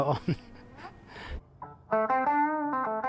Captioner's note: chuckles